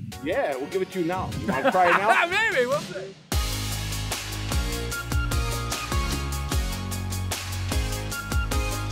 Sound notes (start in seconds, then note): 1.4 laughs; 3.0 upbeat music